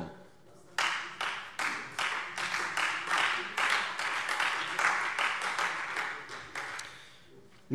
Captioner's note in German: Beifall Freie Demokraten und SPD